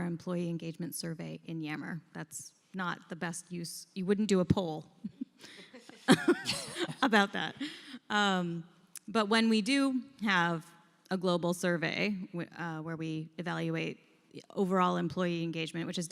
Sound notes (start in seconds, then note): 5.0 laughter